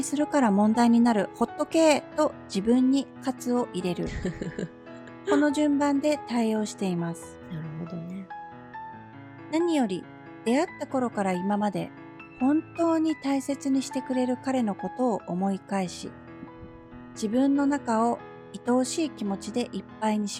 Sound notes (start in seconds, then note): 8.0 laughs